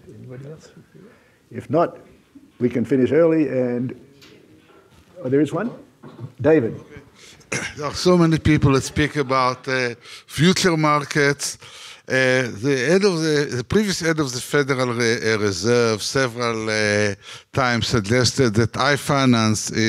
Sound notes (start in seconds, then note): 4.2 audience murmuring